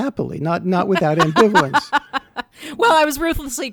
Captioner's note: laughing